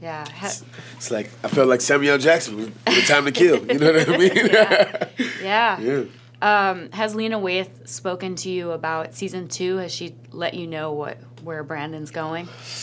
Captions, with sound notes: It's like, I felt like Samuel L. Jackson every time they killed, you know what I mean? (laughing) - Yeah, has Lena Waithe spoken to you about season two, has she let you know where Brandon's going?